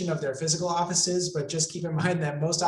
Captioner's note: laughs